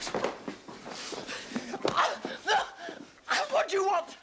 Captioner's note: gasps